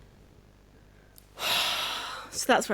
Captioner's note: exhale